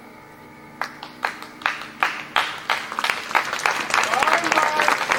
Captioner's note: applause